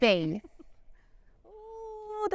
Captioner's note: laughs